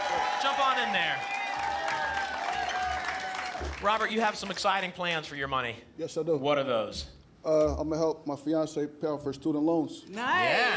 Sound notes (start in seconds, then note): 2.1 applause and cheering cont